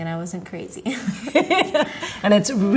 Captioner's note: laugh